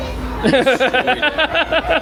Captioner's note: laughs